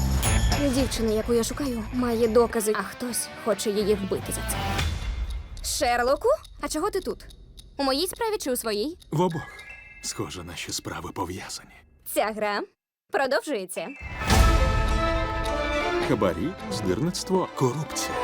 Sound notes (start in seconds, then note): 4.5 clock ticking; 14.0 dramatic music playing